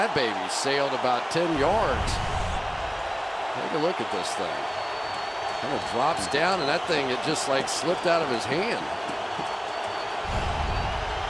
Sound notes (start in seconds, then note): 2.6 cheering